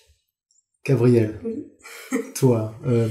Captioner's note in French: rire